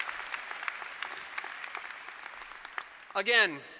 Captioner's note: applause